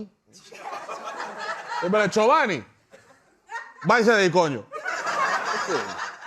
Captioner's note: laughter; spanish; laughter; spanish